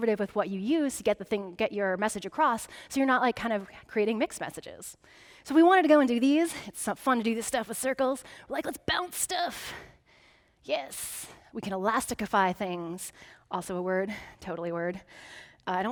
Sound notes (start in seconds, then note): none